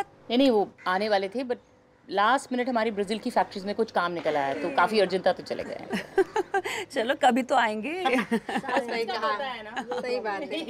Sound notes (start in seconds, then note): 5.6 laughing; 8.0 laughing